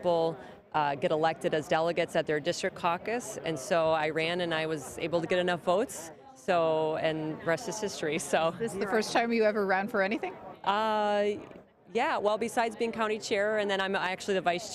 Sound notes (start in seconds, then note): none